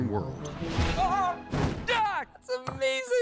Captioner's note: Pogue shouts